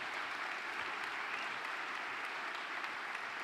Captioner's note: applause